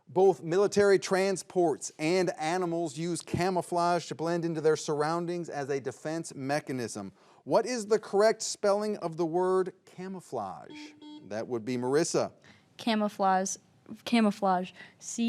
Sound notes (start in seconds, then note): 10.6 buzzer beeps